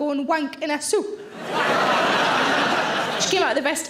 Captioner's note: audience laughing